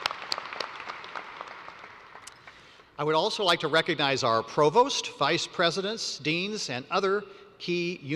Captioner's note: applause